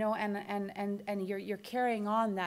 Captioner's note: none